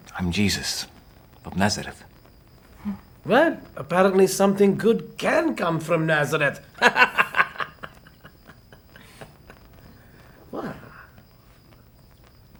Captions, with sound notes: - I'm Jesus of Nazareth. - Well, apparently something good can come from Nazareth. (laughing) What?